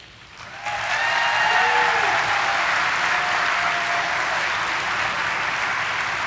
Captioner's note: audience applauding and cheering